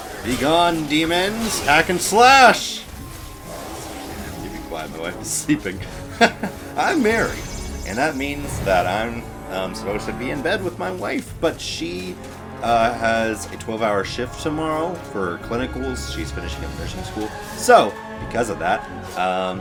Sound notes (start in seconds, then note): 5.8 laughs